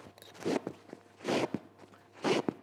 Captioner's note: sewing sound